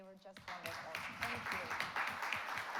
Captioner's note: audience applauds